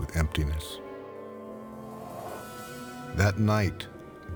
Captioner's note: gentle orchestral music; wind blowing